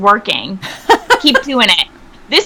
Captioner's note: person laughing